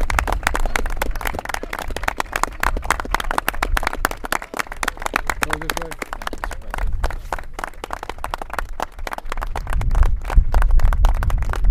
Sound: applause

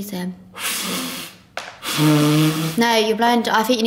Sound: blowing

